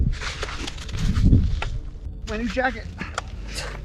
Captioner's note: snow crunching